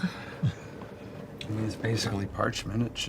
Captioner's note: laughs